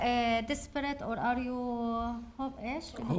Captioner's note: speaking arabic